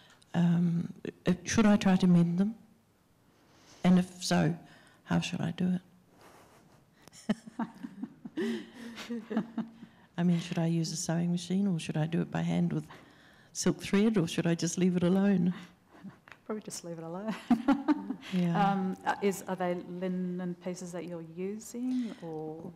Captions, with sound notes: should I try to mend them; and, if so, how should I do it? [laughter] Should I use a sewing machine or should I do it by hand with silk thread or should I just leave it alone? Probably just leave it alone. Are they linen pieces that you are using or..?